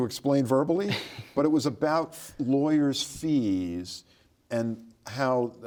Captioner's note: laughs